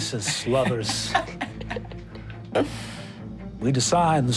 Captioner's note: all laughing